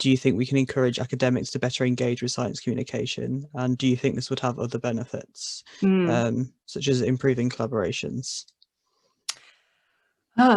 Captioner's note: hmm